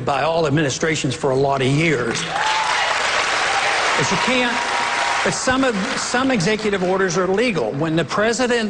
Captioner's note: cheers, applause